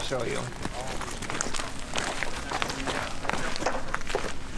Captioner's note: footsteps